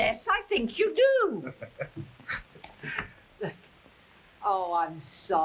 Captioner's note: Captain chuckling